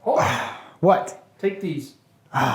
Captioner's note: Riker grunting